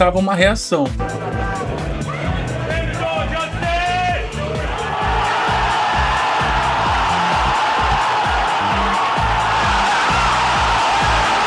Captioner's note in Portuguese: aplausos; grito